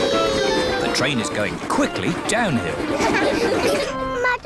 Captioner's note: laughter